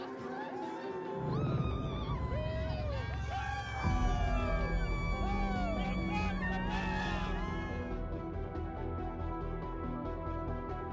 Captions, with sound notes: (fans cheering) - Go Cocks, baby! (dramatic music)